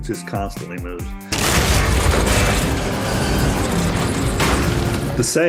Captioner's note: loud explosion